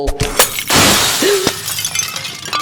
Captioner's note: glass shatters